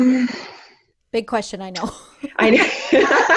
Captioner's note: laughter